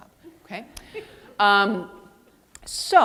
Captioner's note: audience laughing